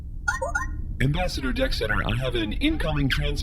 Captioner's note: holo ping sound